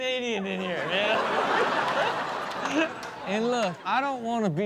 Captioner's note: audience laughs